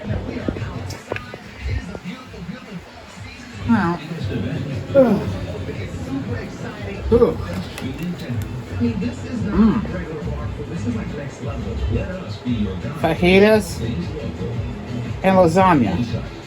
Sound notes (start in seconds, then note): 0.9 grunts and groans; 8.0 "21Alive News at 5" plays in background